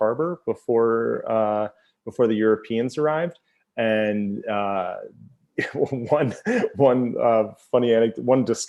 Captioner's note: laughs